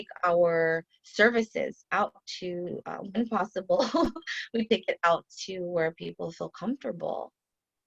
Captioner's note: laughter